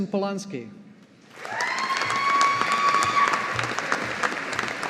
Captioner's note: audience applauding